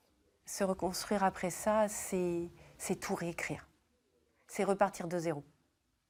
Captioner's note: speaking in foreign language